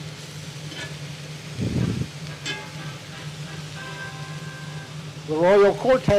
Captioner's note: oven alarm sounding